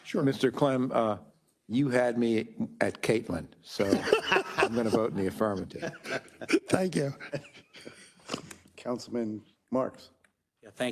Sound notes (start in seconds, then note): 3.8 attendees laughing